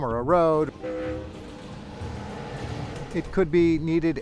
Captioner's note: train whistle blows